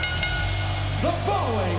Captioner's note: energetic rock music continues; bell rings